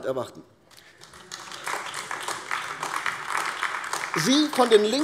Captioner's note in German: Beifall AfD